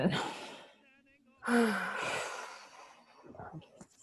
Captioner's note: both sigh